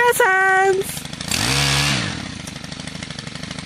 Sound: machinery roars

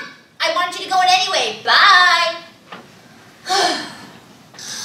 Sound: sighs

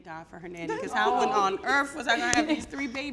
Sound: laughs

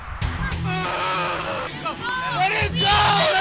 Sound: Punk and gang screams

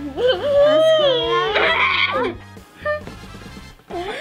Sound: groans

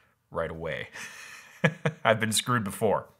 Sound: laughing

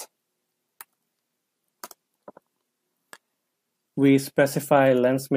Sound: keyboard clicks

